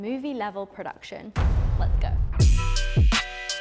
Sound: dramatic clanging; upbeat music

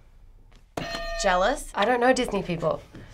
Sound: hitting bell

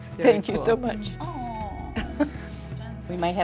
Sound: chuckles

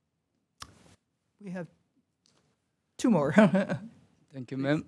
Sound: laughter

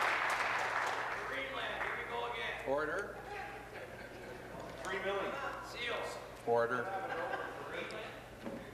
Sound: applause

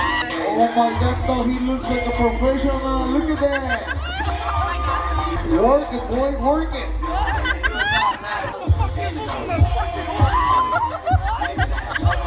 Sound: laughing

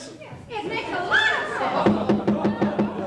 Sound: gavel pounding

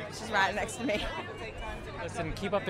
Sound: laughs

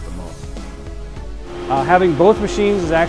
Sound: machines whirring

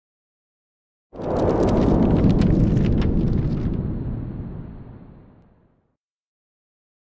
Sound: sound of paper

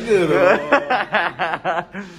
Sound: laugh

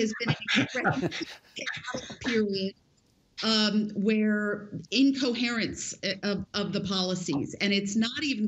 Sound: laughter

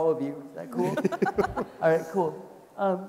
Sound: people laughing

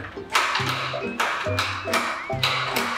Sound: locks clicking

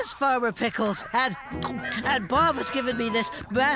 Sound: gulping

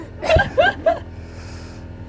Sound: laughter

